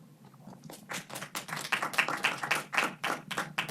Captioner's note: audience applauds